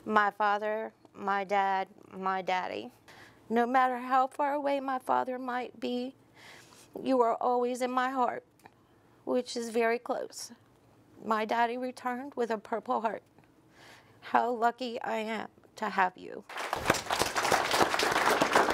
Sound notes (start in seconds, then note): 16.4 applause